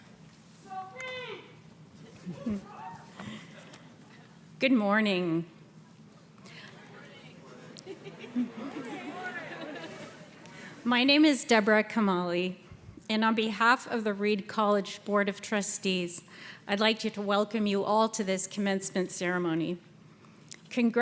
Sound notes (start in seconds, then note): 2.0 people chuckle; 8.0 people chuckle and chatter